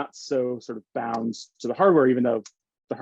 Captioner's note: hands slapping